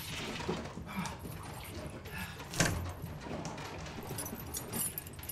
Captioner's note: Jim breathing heavily; chain clanking